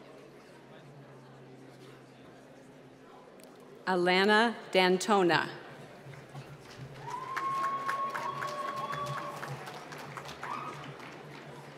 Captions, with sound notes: Alana Dantona. (cheering and applause)